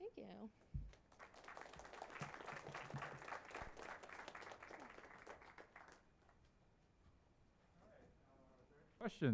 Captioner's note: applause